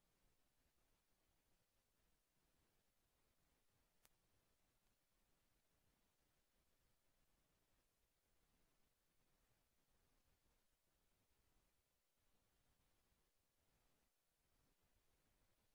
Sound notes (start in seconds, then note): none